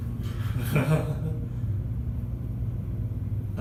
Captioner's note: laughs